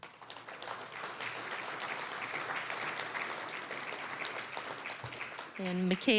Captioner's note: applause